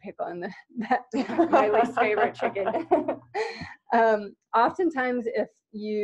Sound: laughter

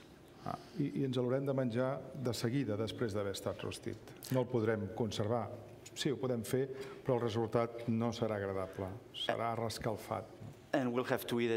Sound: speaking catalan

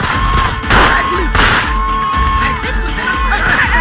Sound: gunshot; screams

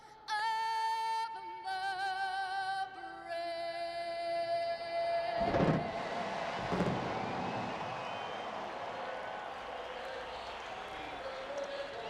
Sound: cheers & applause

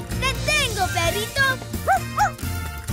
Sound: barking

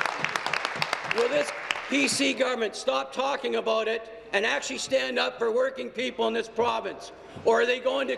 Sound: applause

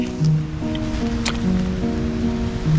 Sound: mud splat

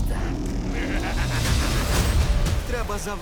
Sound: cackling

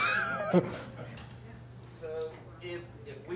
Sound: chuckles

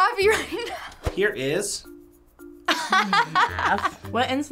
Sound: laughing

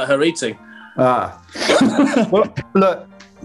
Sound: laughing

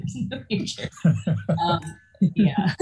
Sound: laughs

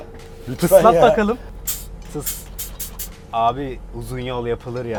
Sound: sound coming from truck

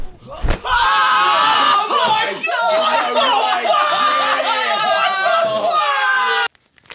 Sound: all yell

